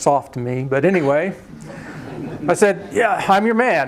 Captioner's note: laughter